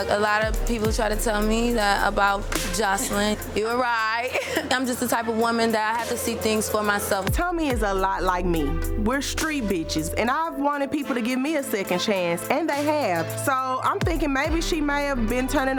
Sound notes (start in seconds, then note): 1.8 laughs